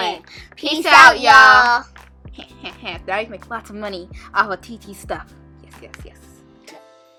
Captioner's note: laughs